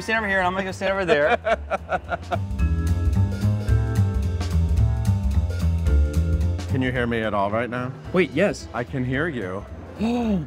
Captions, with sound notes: You stand over here and I'm gonna go stand over there. (laughing) (upbeat jazzy music) - Can you hear me at all right now? - Wait, yes. - I can hear you.